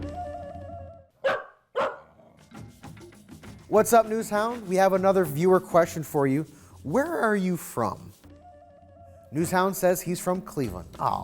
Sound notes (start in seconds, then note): 1.2 dog barks